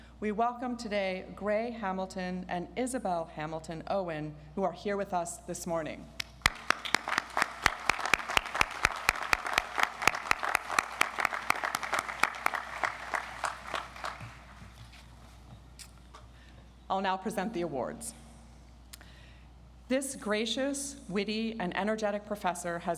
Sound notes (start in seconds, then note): 6.3 audience applauds